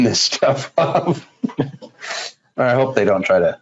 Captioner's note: laughs